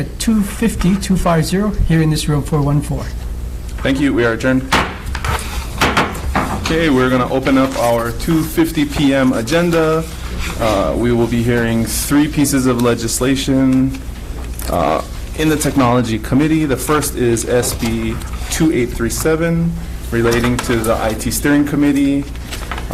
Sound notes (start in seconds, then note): 5.8 loud thud